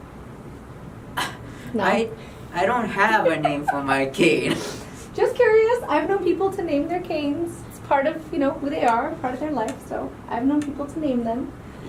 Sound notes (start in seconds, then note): 3.2 laughs; 3.2 giggling